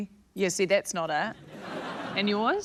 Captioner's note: laughter